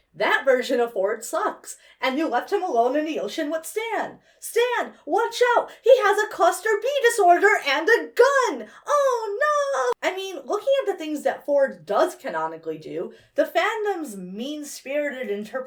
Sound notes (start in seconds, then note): none